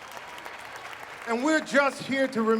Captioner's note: applause